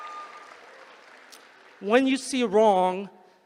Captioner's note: applause